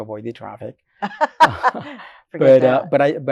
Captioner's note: laughs